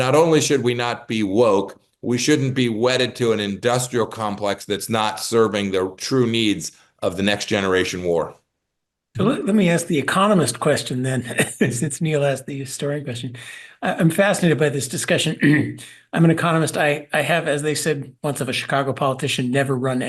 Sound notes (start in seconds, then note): 11.2 laugh; 15.4 cough